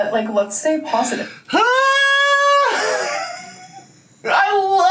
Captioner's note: laughs